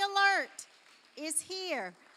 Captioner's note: applause